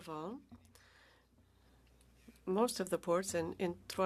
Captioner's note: speaking French